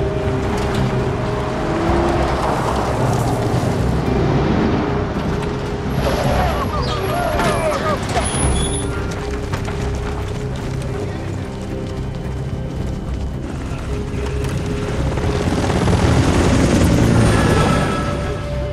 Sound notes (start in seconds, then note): 0.1 vehicles roaring; 8.4 multiple feet quickly shuffling; 13.8 helicopter rotors spinning